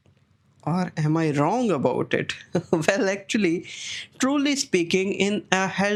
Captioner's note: chuckles